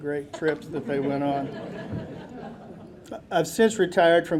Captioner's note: audience laughing